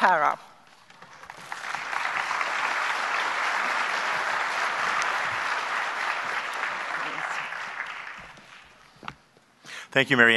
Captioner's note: applause